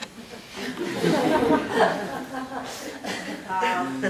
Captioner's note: students laugh